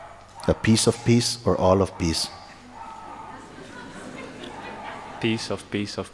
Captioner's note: laughter